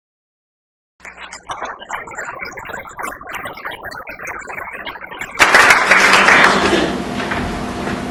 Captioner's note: applause